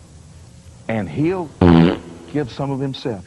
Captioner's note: shorter, more abrupt fart